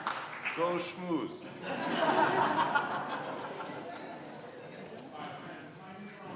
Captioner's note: audience laughing